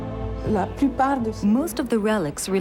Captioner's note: speaking in foreign language